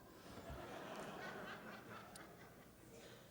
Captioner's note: laughter